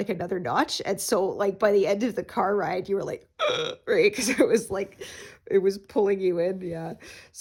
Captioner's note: gasps